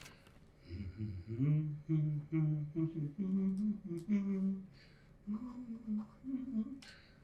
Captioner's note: humming to the tune of "The 12 Days of Christmas"